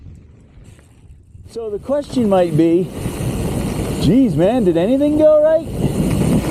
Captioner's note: mountain bike whirring, gravel crunching